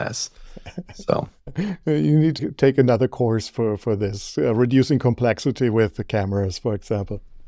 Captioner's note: laughs